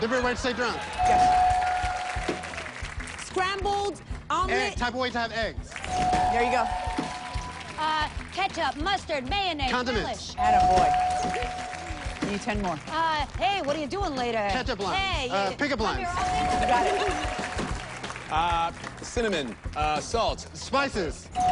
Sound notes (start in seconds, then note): 5.9 bell dings